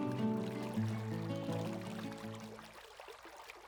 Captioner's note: water flowing